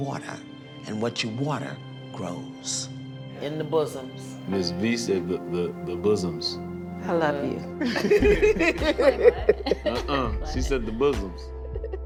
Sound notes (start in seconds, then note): 7.8 laughing